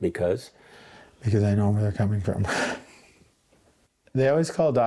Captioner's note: chuckles